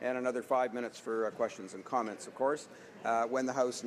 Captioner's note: none